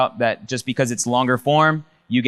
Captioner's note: none